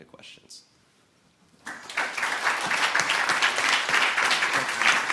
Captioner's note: applause